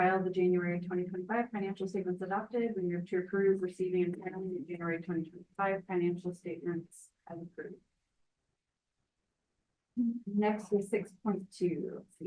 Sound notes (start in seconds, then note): 3.2 speaks faintly